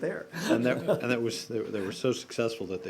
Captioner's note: laughter